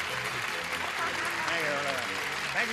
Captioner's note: clapping